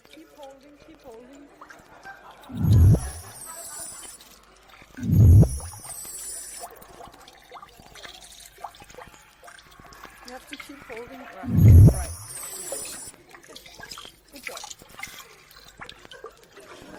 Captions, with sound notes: Keep holding, keep holding. (electronic blip) (water dripping) You have to keep holding, right, right. Good job.